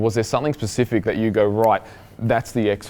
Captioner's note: snapping